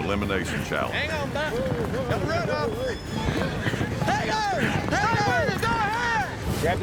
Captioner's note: cowboys yelling